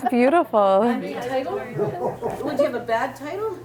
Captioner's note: people chatting, laughing